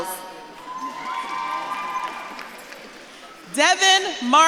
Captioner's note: audience claps and cheers